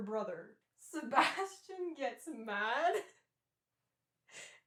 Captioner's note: laughing